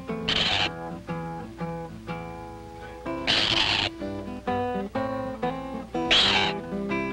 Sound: nature sounds

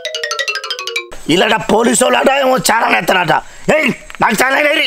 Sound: satirically

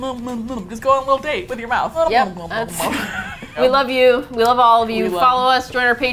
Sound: both laugh

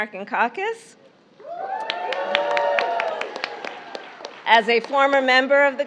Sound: applause

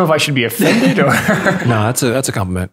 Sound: laughter

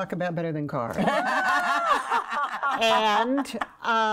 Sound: women laughing

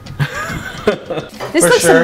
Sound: laughs

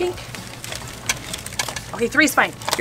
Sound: plastic rattling together

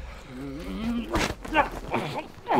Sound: Devon growling

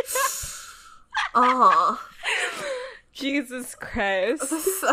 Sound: laughs

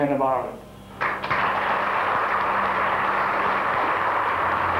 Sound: audience applause

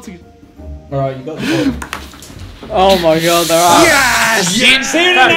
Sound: students murmurs

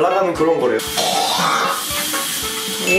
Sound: spitting

